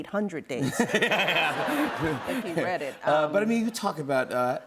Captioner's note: laughter